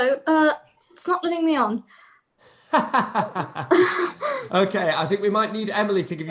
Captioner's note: laughs